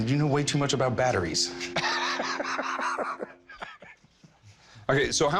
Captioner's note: laughing